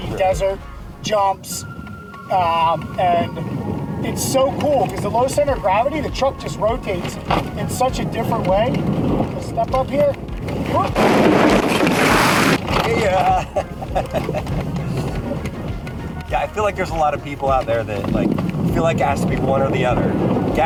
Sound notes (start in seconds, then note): 10.5 truck rumbles; 13.1 chuckles